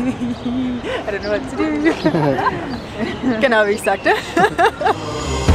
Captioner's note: laughs